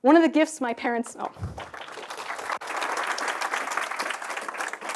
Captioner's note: applause